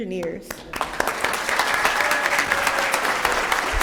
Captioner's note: applause